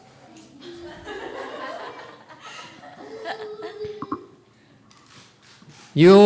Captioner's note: audience laughs